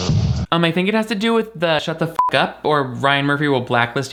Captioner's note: beep